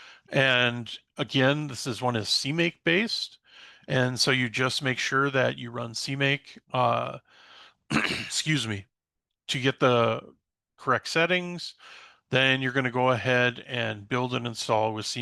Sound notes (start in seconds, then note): 7.9 clears throat